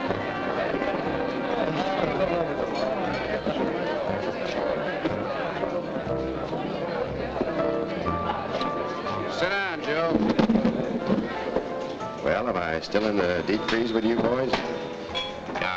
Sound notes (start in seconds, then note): 3.3 crowd chattering